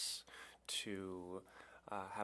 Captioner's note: speaking French